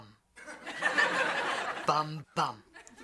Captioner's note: audience laughing